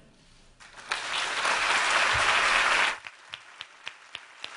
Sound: applause

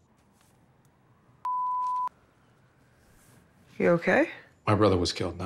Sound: beep

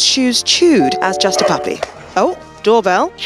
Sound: doorbell ringing

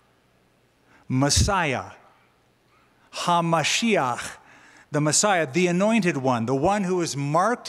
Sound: hebrew

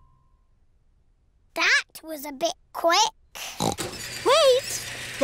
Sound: oinks

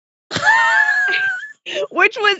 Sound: laughs

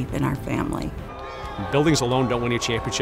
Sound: player cheering

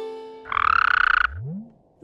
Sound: ribbit

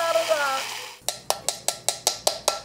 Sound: bowl clanging

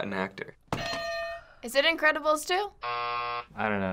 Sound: buzzer

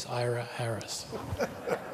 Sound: laughter

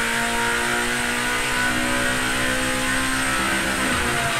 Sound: engine roars

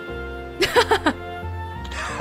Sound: chuckles

